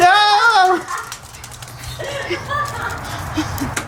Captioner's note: laughter